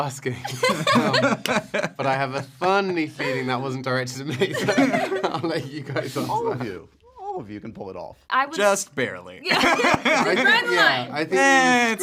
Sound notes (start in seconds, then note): 0.4 laughter; 9.4 laughter